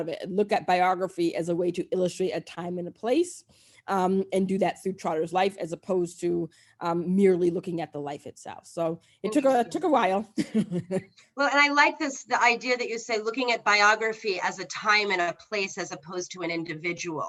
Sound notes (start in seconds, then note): 10.4 laughs